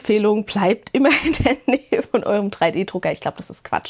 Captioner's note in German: Gelächter